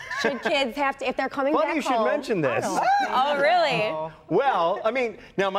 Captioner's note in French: laughter